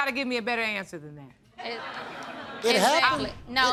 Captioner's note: audience laughs